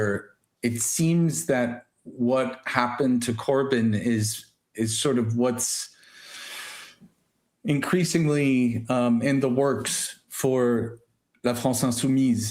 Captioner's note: sighs and gasps